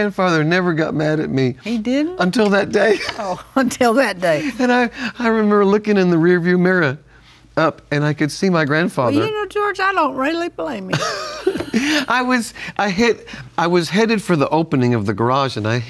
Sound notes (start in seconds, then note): 3.4 laughs; 10.9 laughs